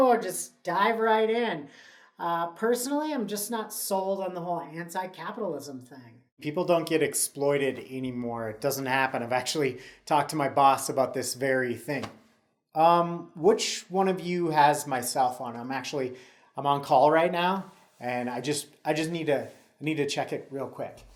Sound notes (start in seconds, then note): 12.4 nervously